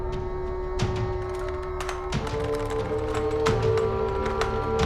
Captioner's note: gun clicks; rifle rattling